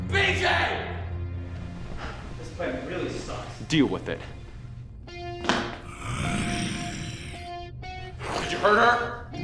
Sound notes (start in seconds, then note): 5.6 footsteps clatter; 5.8 zombie growls